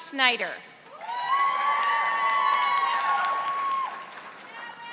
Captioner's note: audience applauding